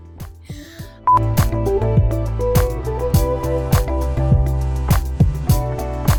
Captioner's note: beep